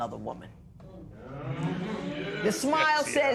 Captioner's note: spectators murmur